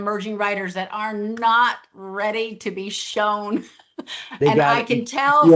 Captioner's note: laughs